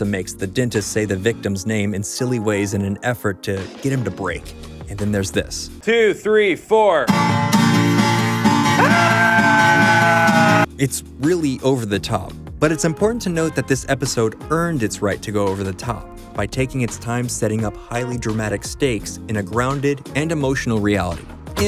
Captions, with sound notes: makes the dentist say the victim's name in silly ways in an effort to get him to break. And then there's this. 2, 3, 4. [SCREAMS] It's really over the top. But it's important to note that this episode earned its right to go over the top by taking its time setting up highly dramatic stakes in a grounded and emotional reality.